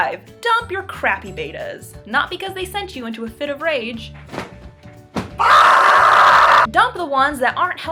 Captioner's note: rage Screaming